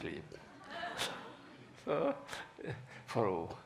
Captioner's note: laughing